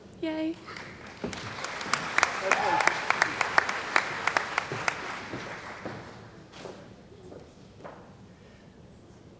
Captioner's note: cheering & Applause